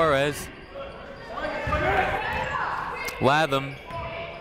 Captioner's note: people shouting in the crowd